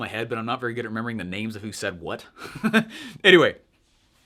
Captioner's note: laughs